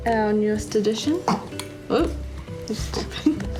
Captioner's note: burps loudly; chuckles